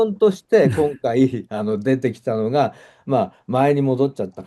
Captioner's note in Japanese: 咳払い